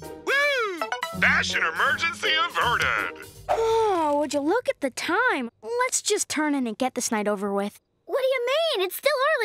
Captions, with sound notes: Whoo! Fashion emergency averte. [yawning] Would you look at the time? Let's just turn in and get this night over with. What do you mean? It's still early